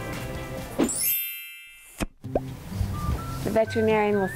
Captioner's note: bells chime